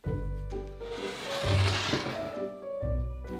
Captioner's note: bowl sliding